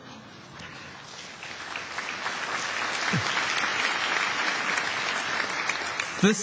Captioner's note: applause